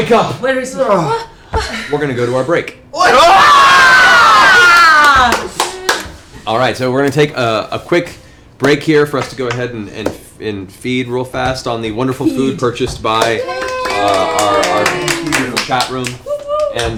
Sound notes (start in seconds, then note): 3.0 cheering; 14.9 cheering